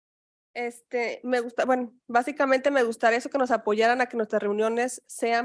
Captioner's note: speaking in Spanish